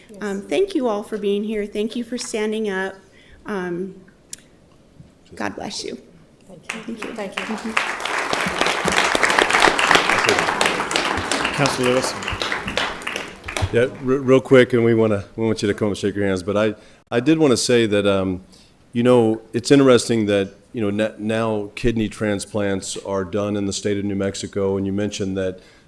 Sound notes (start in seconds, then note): 10.5 applause